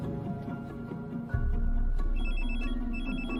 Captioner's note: phone ringing